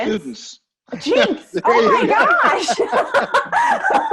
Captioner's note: laughing